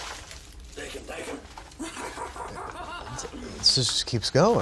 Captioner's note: manic laughter